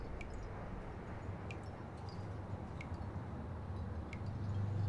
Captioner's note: water dripping